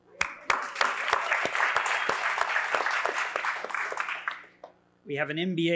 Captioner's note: applause